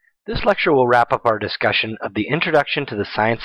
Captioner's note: voiceover